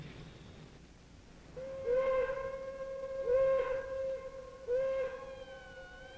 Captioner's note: sirens blaring